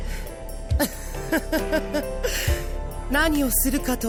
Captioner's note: chuckle; laugh